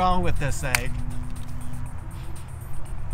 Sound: crack; upbeat music

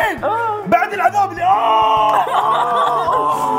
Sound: moaning

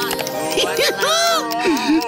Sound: giggling

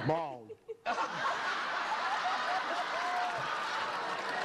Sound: laughter

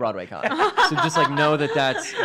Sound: laugh

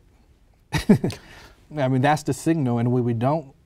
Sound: laughter

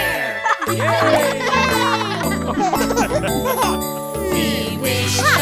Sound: cheering and laughing

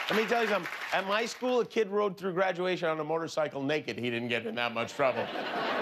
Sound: cheers and applause

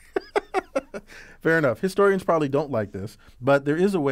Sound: laugh

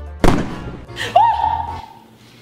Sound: pop sound; screams

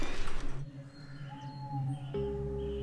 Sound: owl hoots

